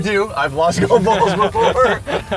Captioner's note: laughing